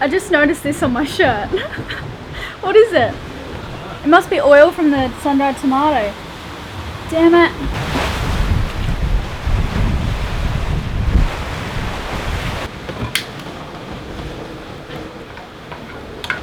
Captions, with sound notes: I just noticed this on my shirt. (laughing) What is it? It must be oil from the sun dried tomatoes. Damn it. (wind rushing)